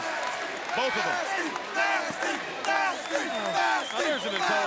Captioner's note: crowd cheering